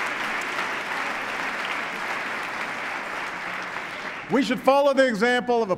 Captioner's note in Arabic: تصفيق